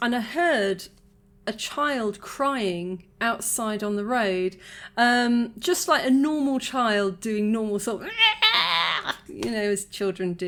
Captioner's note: wailing